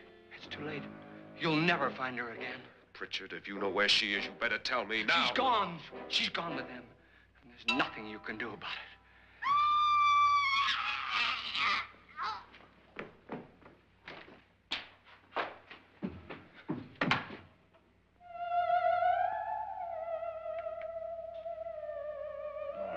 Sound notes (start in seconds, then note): 9.4 woman screams & gags; 12.5 running footsteps; 18.2 eerie music